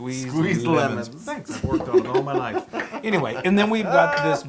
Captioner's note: laugh